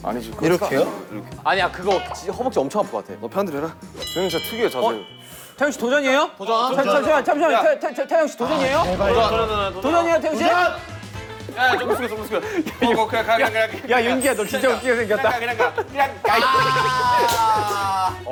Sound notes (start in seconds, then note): 11.5 Riéndose